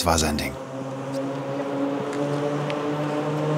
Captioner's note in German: Schnellerwerdende Motorengeräusche